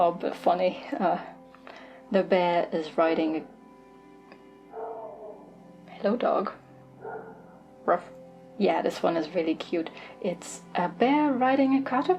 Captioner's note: dog barking in the distance